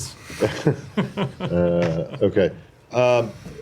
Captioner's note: laughter